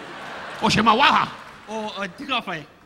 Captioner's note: audience laughing; Don speaking in Japanese; speaking in Japanese